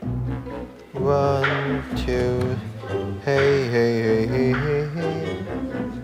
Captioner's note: humming